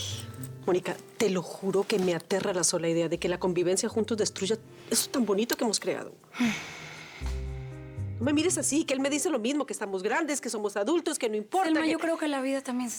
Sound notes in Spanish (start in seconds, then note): 8.0 suspiros